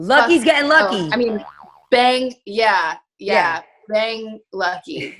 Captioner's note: springing tones